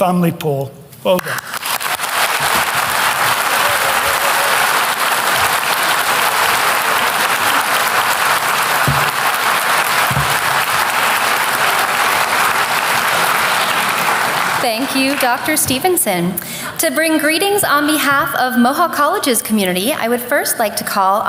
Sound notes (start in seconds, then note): 1.2 applause